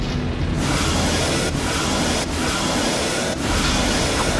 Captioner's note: lightning cracking